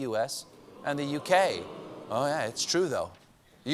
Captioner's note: audience reacts